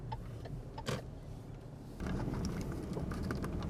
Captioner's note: blinker clicking